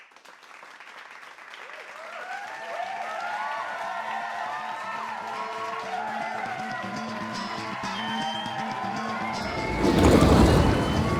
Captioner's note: applause